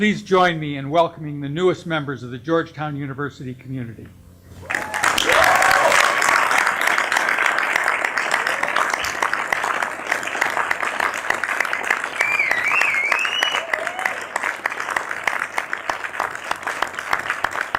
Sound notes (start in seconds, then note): 5.6 applause